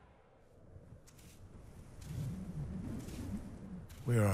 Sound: soft footfalls

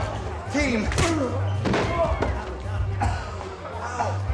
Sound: Darryl thudding

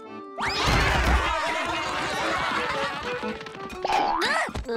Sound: clamoring

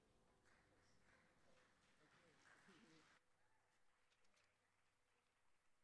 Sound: audience applauding

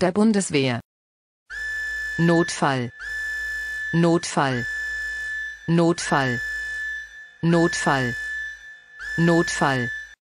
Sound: sirene

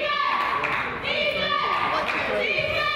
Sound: claps

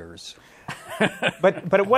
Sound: laughs

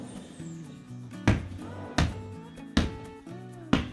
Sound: sound of ball bouncing

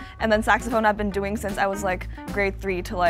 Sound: none

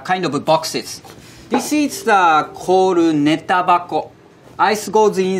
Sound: text chiming

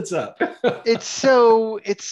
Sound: laughs

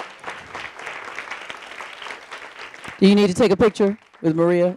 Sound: audience applauding

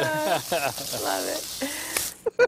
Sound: laughter

